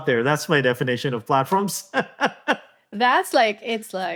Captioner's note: laughs